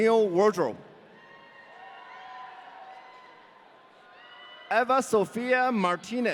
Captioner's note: audience cheering